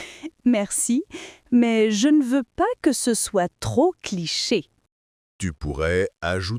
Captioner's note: laughing